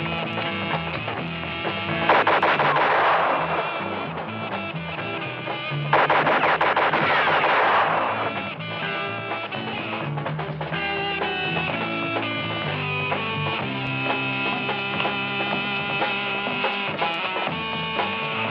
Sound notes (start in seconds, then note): 1.9 gunshots; 5.4 bullets whistling; 5.8 gunshots